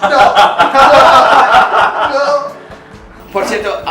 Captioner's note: laughs